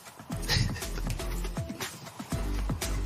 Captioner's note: chuckles